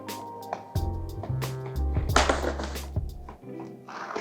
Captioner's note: pleasant music; wood thuds